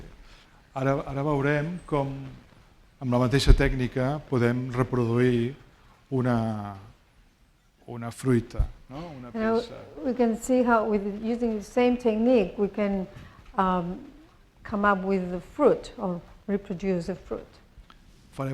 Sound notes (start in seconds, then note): 1.1 speaking spanish